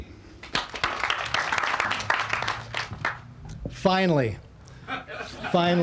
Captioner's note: all applauding